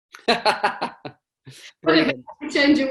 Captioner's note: chuckles